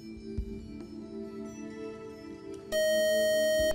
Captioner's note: buzzer